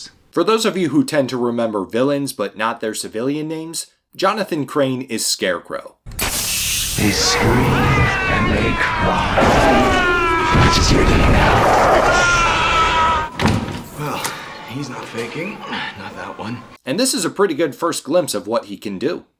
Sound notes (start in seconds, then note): 6.2 hiss of mist being vented; 6.9 panicked screams; 12.3 more panicked screams; 13.3 door closing; 15.4 Falcone's faint screams in background